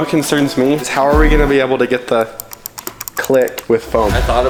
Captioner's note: clicks mouse